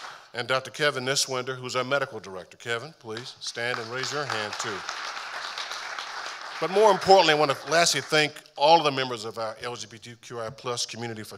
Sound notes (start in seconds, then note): 3.5 audience applauding